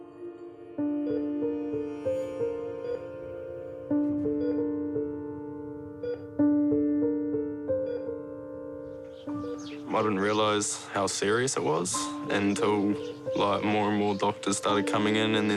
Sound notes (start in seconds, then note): 1.0 monitor beeps steadily